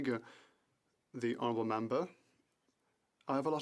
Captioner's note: speaking French